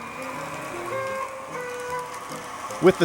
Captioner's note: two tone horn